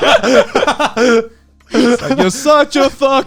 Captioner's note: laughing loudly